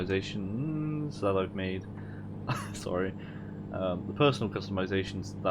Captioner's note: laugh